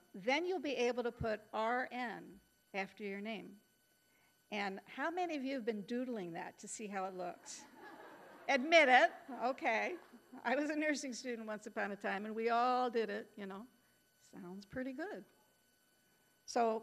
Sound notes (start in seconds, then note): 7.6 audience laughing